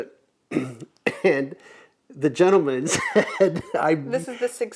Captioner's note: laughs